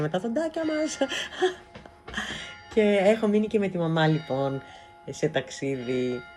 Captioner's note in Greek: γέλια